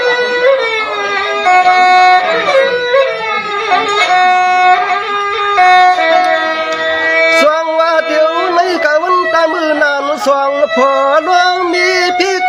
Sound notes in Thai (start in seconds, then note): 1.2 ปรบมือ